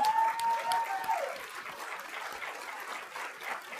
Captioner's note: applause